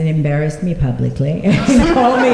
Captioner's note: laughter